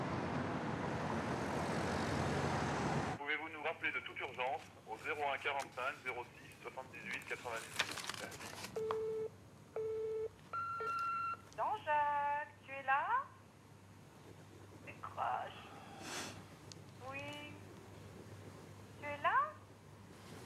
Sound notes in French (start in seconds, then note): 10.6 Bip; 11.2 Voix de femme